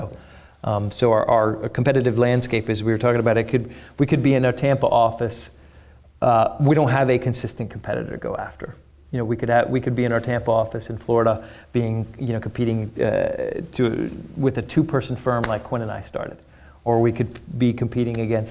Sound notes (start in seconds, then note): none